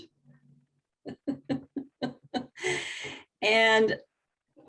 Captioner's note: laughing